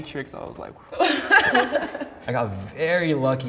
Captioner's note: laughing